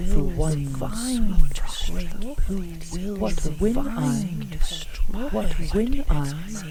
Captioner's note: overlapping whispered voices repeat over and over the words of the poem